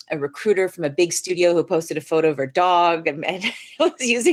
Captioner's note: laughs